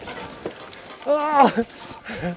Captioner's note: laughs